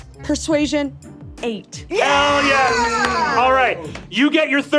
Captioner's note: players cheering